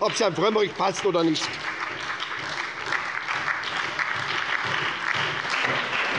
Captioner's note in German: Beifall bei der SPD, der LINKEN und der FDP